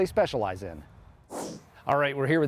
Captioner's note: whoosh sound